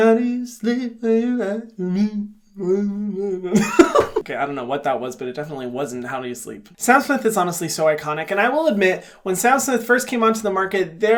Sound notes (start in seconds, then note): 3.4 hums; 3.5 laughs